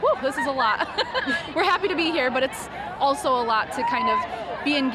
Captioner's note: laughs